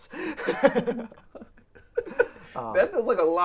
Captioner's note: both laughing